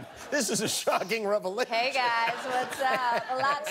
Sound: laughter

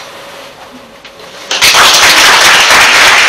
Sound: audience Applause

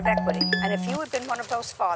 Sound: phone notification

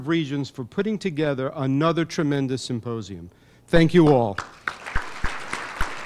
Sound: applause

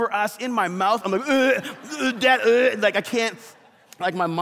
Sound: congregation laughs

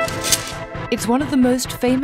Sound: sword clinks

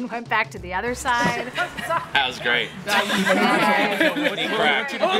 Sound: laughter

